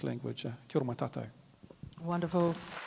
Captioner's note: speaks native language